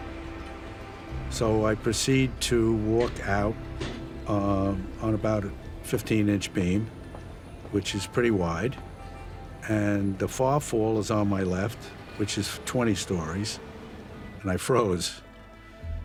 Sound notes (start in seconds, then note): none